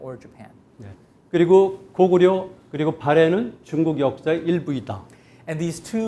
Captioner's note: speaking in Korean